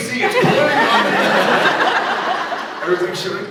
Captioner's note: laughs